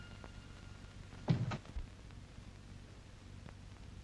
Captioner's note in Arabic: يغلق الباب